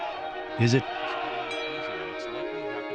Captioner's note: voice-over